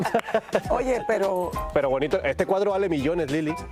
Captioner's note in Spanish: ríen